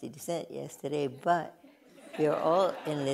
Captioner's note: laughter